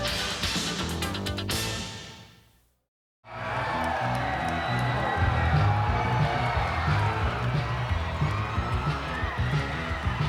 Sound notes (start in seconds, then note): 3.2 fans cheering; 6.5 upbeat music